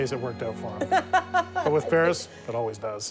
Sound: laughing

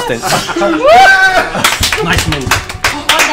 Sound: all cheer

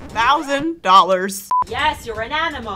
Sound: beep

